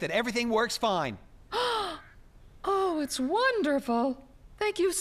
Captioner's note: gasps